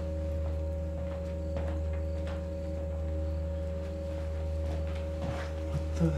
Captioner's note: hand patting; footsteps retreating; tense music